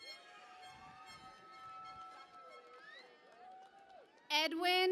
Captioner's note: cheering and Applause